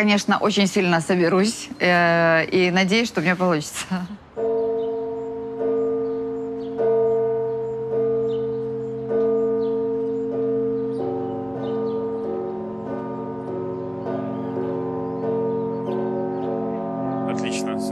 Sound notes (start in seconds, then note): 8.2 bell rings